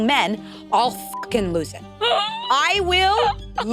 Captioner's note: beep